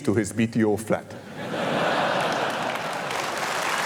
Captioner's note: laughter; applause